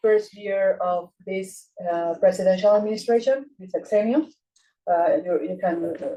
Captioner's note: speaking Spanish